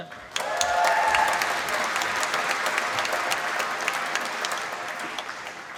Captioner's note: applause